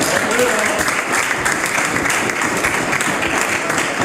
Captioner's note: some Applause